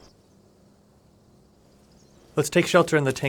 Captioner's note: engines rumbling